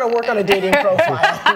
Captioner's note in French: laughter